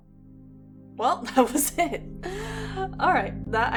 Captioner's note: laughing